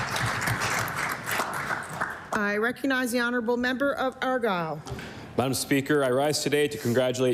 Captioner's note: applause